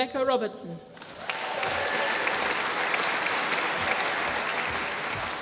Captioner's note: applause